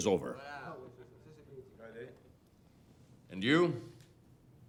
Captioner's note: men chattering indistinctly